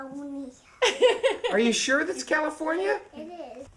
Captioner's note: laughing